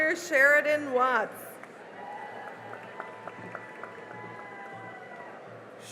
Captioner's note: cheering and applause